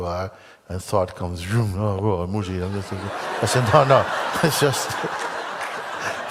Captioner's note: laughter